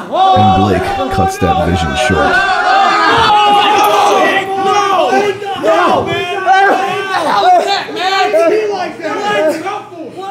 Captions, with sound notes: And Blake cuts that vision short. [AUDIENCE CHEERING]